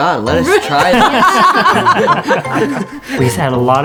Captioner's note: laughing